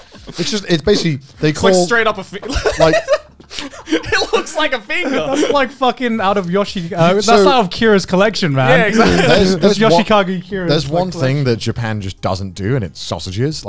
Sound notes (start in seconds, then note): 0.0 laughing; 3.4 laughing